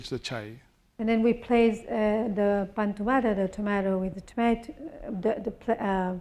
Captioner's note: spanish